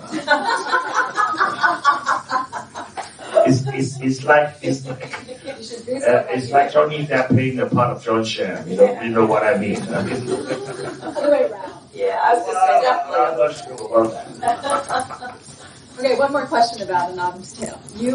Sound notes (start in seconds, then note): 0.0 laughter; 9.7 laughter